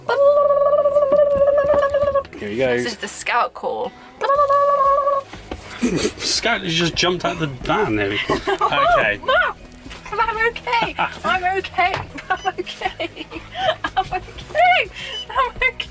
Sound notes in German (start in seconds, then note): 12.0 lacht